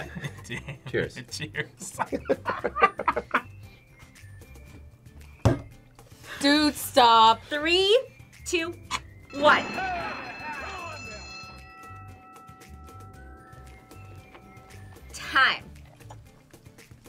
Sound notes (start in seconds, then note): 1.8 both laugh; 9.2 bell rings